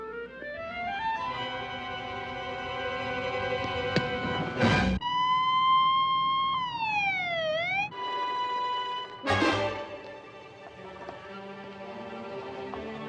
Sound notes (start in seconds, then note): 5.0 siren wailing